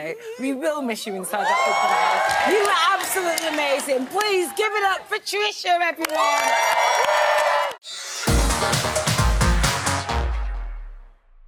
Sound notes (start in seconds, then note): 6.1 crowd cheering